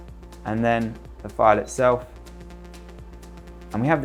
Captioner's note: screen beeps